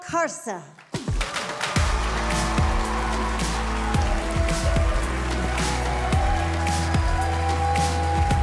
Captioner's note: audience cheering; cheerful music